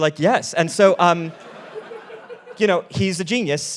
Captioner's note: all laughing